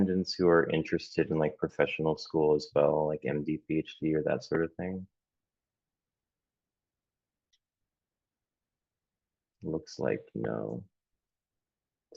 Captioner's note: pause